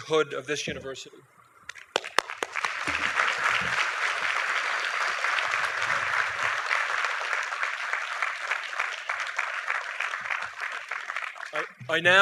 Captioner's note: applause